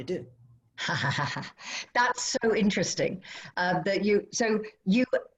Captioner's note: laughter